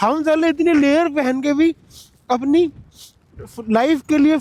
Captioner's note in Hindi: नाक से की जाने वाली आवाज़